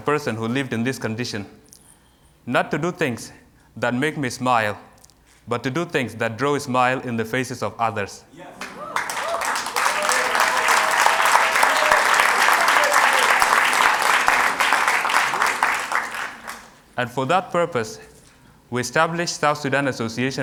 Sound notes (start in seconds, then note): 14.2 applause